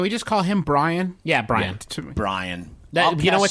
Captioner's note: scoff